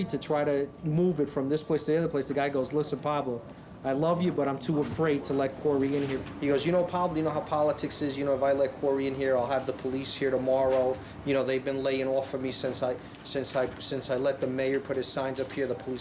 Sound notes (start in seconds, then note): none